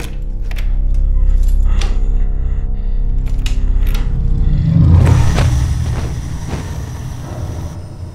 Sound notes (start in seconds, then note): 2.8 breathing raggedly